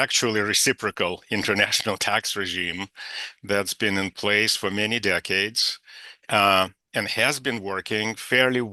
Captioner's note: laughs